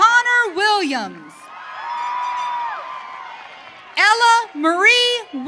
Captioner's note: audience cheering